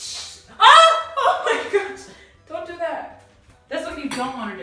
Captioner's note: screams